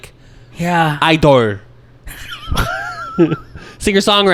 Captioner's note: in Korean accent